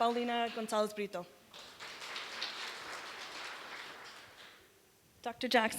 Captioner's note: applause